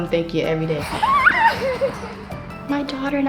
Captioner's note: child laughing